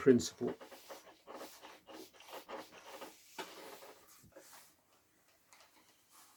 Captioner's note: ironing board creaking